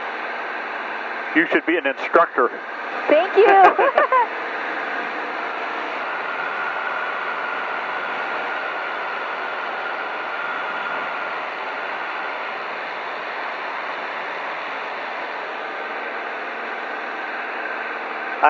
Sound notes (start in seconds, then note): 4.7 propeller humming